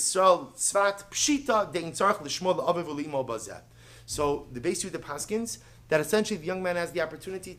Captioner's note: Hebrew